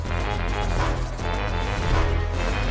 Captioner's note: chuckles; intro Theme Music